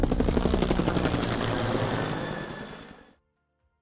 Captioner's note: helicopter whirs